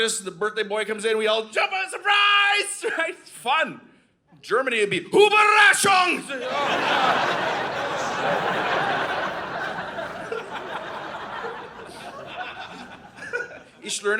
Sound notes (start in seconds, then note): 5.4 shouting in German; 6.4 audience laughing